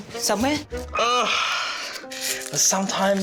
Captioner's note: groans